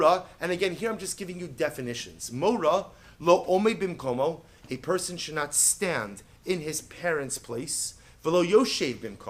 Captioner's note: Hebrew; Hebrew